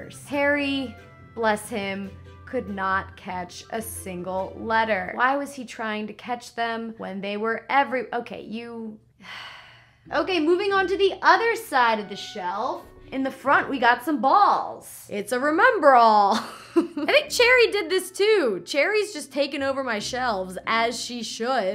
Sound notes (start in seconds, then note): 9.2 sighs; 16.3 laughs